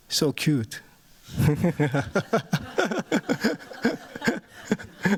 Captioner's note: laughter